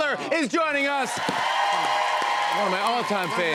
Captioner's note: cheers and applause